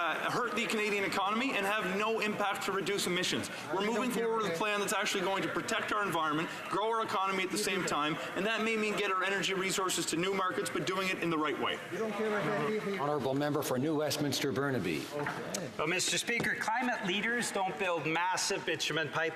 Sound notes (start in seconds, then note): none